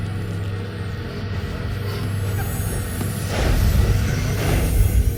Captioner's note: energy hissing